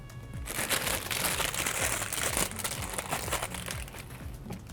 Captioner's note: bag crinkling